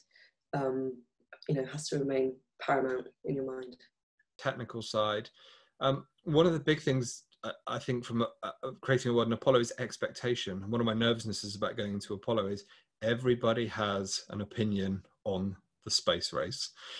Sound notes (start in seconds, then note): none